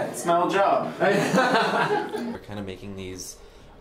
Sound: laughter

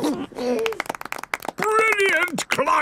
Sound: George giggles; clapping

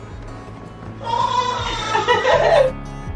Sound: cheers; laughs

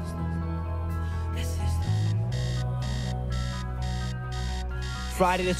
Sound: alarm buzzing

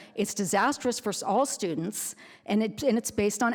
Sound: none

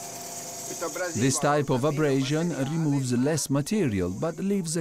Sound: speech is translated

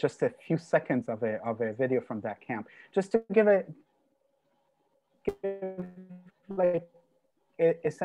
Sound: audio disrupted

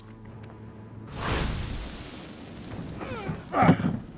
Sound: grunting

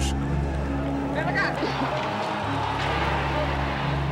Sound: protestors shouting

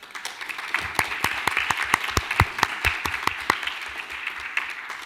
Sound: audience applauding

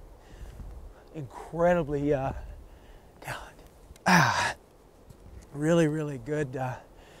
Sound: grunting

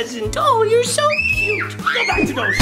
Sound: screams

